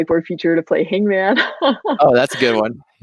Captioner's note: laughs